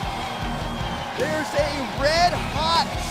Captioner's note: crowd cheering